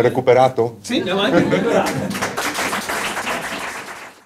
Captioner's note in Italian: Applauso